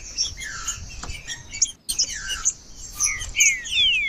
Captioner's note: trinca ferro cantando